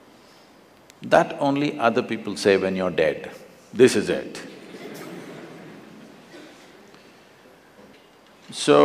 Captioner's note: laughter; 笑聲